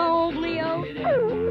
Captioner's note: whimpering